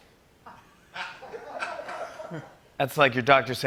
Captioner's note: laughter